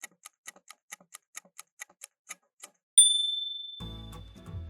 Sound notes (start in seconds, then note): 0.0 timer ticking; 3.0 ding!